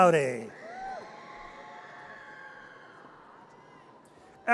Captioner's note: audience cheers